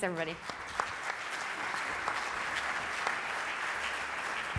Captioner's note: audience applauds